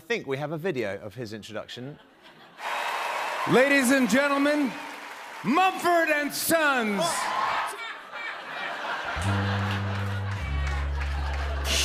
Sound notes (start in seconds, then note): 7.8 laughter; 9.2 sad trombone; 11.6 cymbals crash